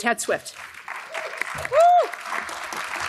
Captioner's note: audience claps